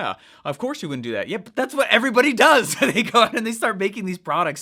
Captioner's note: chuckles